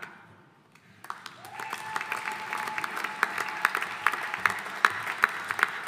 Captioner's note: audience applauding